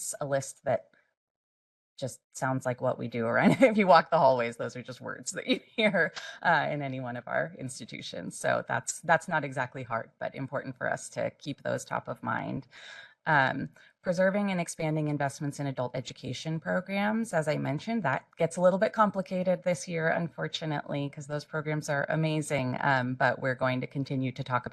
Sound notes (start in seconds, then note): 6.2 laugh